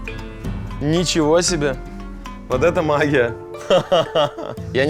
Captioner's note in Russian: смеётся